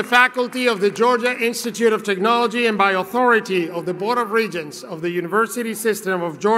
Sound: cheeringnd Appuse

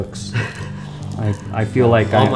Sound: laughs

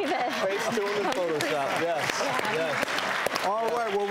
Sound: audience clapping

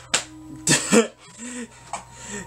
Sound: laughs

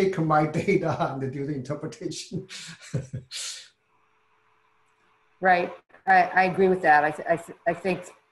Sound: laugh

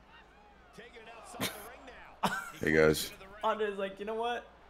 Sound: laugh

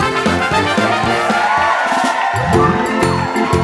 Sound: audience cheering; bright upbeat music

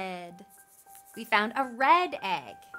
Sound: egg rattles

